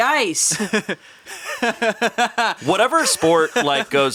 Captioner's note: laughing